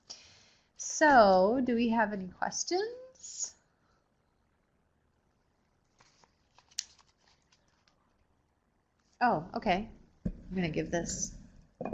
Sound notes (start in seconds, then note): 3.6 no sound - waiting for questions